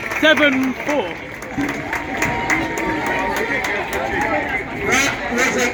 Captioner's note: applause